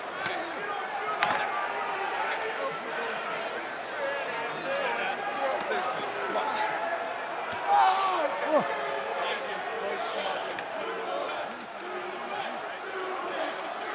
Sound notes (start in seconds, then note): 2.5 crowd cheering